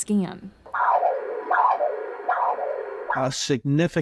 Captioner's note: ultrasound machine whirs